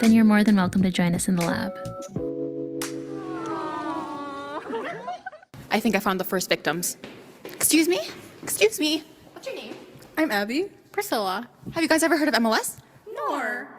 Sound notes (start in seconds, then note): 3.2 laughing